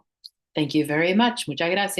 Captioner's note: hablando inglés